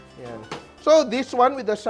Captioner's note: sizzles